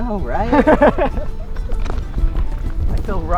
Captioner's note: laughing